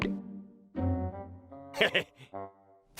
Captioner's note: chuckles